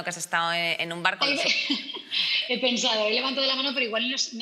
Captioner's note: laughs